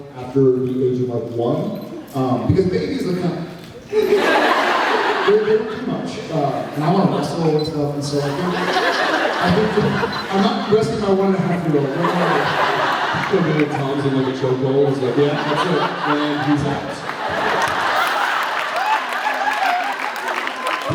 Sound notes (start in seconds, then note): 3.9 laughs; 8.2 laughs; 11.3 laughs; 15.0 laughs; 17.5 laughs, applauds